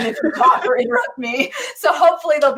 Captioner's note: laughing